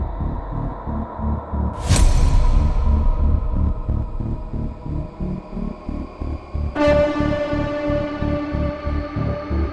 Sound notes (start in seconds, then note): 1.8 image crashes